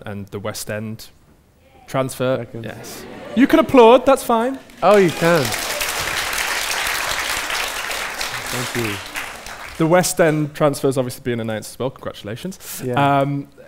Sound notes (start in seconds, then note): 8.4 audience applause